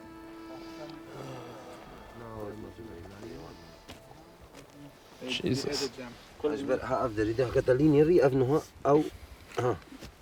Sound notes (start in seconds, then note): 5.6 speaking foreign language